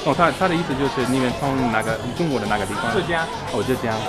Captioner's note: mandarin